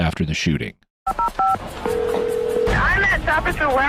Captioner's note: phone ringing